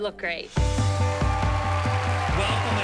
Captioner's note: cheering and applause